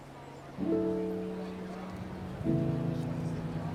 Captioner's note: quiet chattering